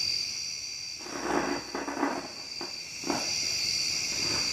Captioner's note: trees cracking